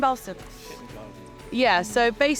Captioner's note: group chattering softly